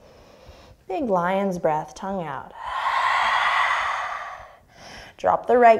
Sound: exhaling

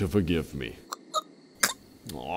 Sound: still choking to death

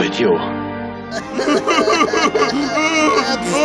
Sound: crying

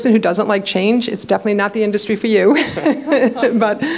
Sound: laughs

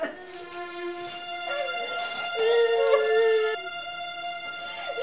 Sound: crying; both crying

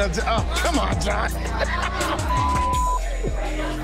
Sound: laughing; beep

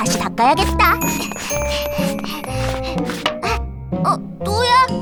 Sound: Wilk panting

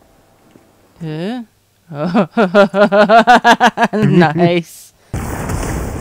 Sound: laughs

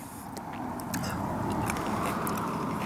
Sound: car passing

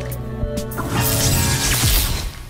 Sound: zapping

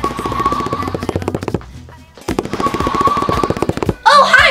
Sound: running sounds

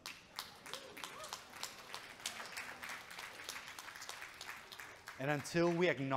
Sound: audience clapping

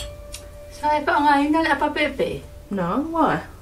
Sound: speaking in Samoan

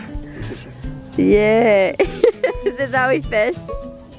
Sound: laughing

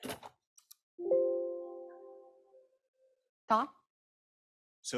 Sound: computer dings

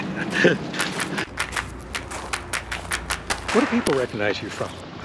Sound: laughs

